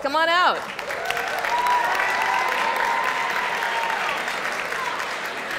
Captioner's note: audience cheers and applauds